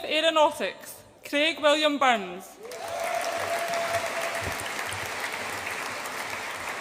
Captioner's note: audience applauds and cheers